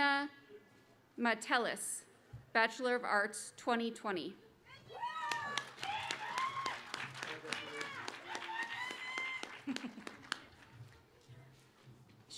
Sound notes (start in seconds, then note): 3.5 applause